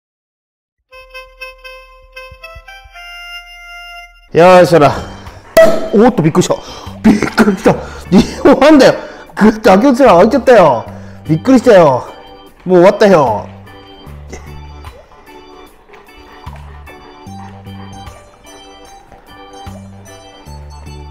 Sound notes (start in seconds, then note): 7.5 laughs; 20.1 laughs